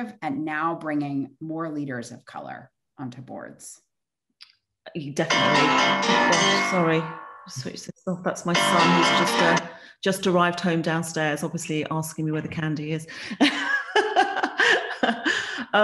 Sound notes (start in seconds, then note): 5.3 phone beeping; 13.6 laughs